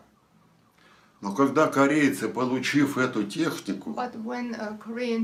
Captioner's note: foreign language